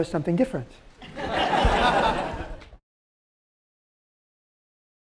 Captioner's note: laughter